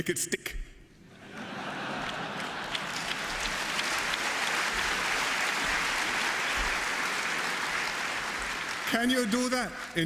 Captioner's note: laughter and applause